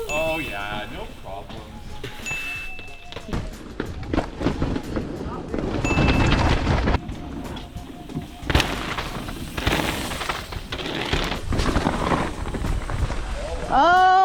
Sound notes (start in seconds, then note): 4.4 wheels whooshing; 8.4 wheels thudding; 11.4 wheels whooshing